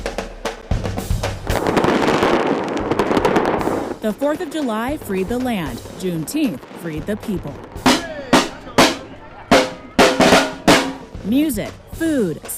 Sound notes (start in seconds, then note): 3.2 fireworks banging; 10.8 drums banging